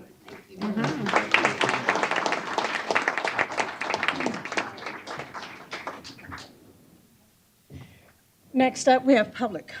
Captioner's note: applause